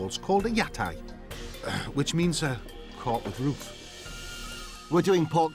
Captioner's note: clearing throat